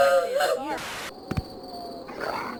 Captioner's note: TV buzzing